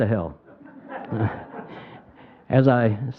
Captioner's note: crowd laughing